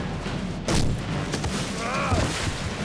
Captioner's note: grunting